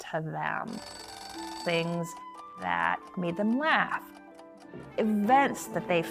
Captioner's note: alarm clock rings